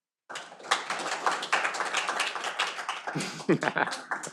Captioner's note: audience applauding; laughing